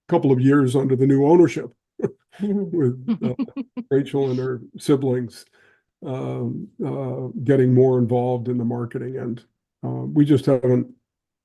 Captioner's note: laugh